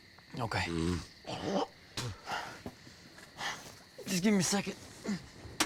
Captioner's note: snorts and spits